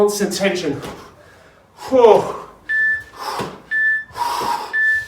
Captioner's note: breathing heavily